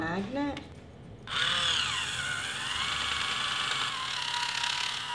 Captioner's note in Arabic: الطنين الطوقان